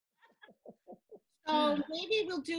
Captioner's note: laughing